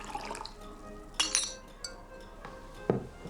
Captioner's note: gurgling sound